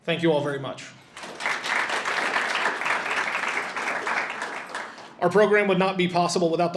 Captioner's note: audience applauds